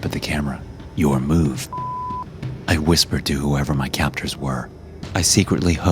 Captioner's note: beep